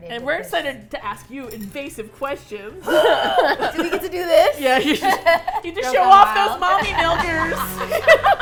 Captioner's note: grunts; all laugh